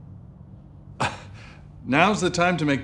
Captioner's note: scoffs